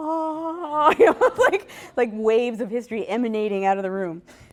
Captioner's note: laughter